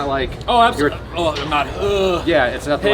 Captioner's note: groaning stressfully